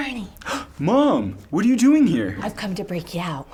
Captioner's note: gasps